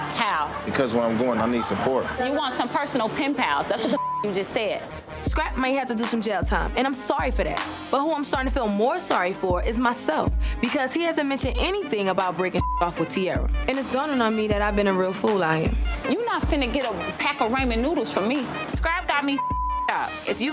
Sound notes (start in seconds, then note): 3.9 beep; 12.6 beep; 19.4 beep